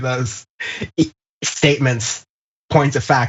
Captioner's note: laugh